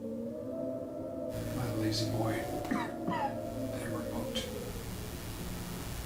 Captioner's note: coughs